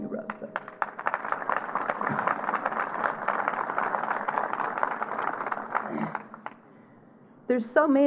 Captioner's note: applause